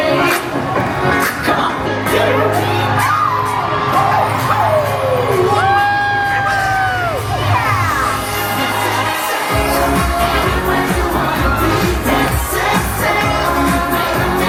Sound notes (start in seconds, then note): 2.4 Disney characters exclaim; 7.4 cheers; 9.3 upbeat music